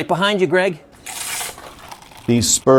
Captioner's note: water pistol squirts